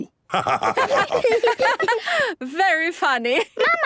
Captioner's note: laughter